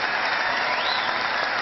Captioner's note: cheering